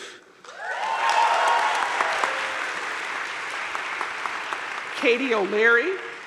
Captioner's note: crowd cheering and applauding